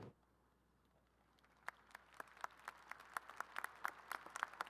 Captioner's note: crowd applauding